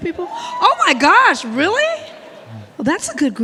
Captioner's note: audience member cheers